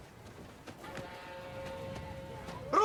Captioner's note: train whistle sounds